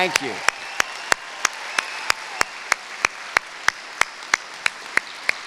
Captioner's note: cheering